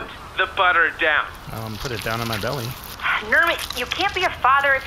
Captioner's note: huffs